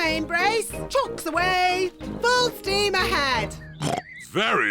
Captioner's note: oinks